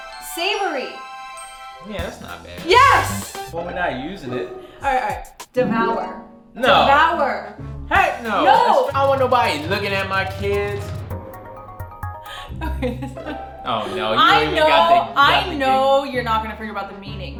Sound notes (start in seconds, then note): 12.3 giggling